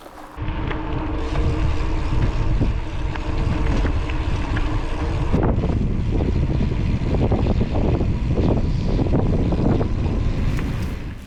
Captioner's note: bike tyre noise